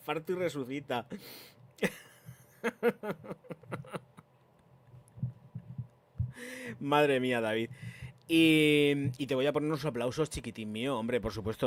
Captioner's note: laughs